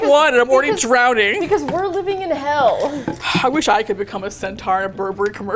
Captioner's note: sighs wistfully